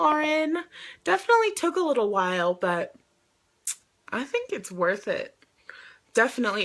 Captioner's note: clicks tongue